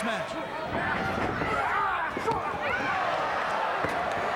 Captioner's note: fans chattering